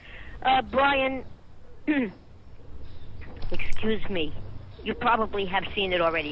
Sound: clears throat

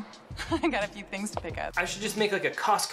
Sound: laughs

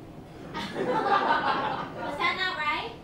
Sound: laughter

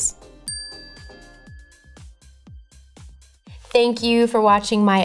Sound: bell chiming

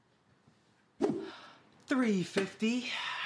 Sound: soft whooshing

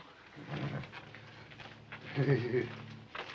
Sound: giggles

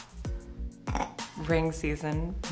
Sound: snorts

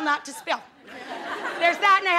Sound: audience laughing

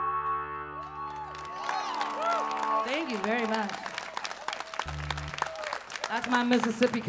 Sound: audience clapping

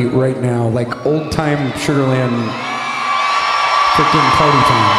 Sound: audience cheering

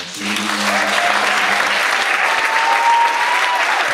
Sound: audience cheers

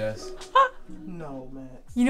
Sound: laughs

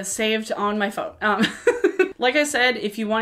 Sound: laughs

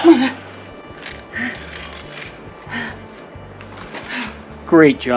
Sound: sound of struggling

